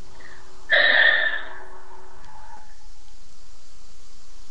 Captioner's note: sighs